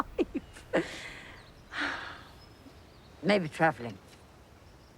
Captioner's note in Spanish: suspiros